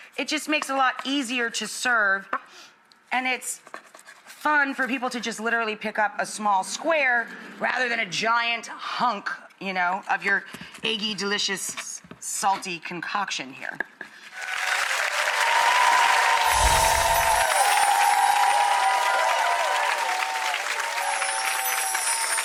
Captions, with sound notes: It just makes a lot easier to serve and it's fun for people to literally just pick up a small square rather than a giant hunk you know, of your eggy, delicious, salty, concoction here. (audience applause) (angelic music)